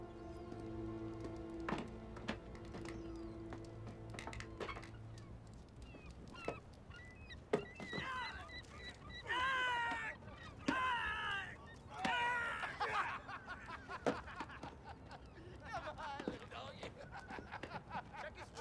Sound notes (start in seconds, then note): 5.1 ladder creaking; 7.1 seagulls screeching; 10.6 man yelling; 12.0 men laughing